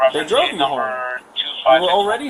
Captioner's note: radio chatter